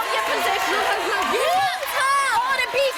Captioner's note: cheering